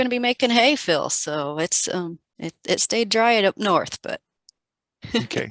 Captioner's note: laughs